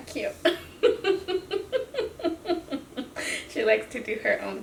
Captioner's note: laughs